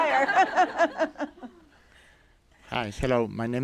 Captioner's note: laughter